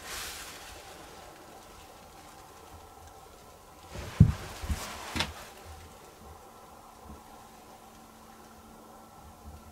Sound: footsteps?

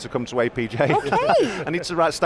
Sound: laughs

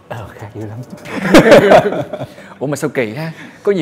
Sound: laugh

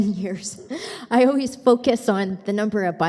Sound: chuckling

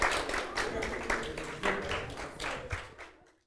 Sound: clapping

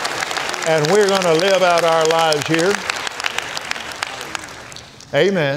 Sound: applauds

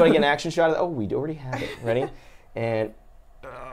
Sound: laughs

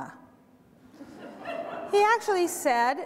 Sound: audience laughter

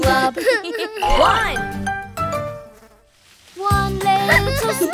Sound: laughs

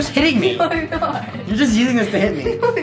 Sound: laughter

